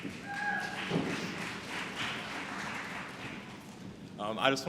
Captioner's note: applause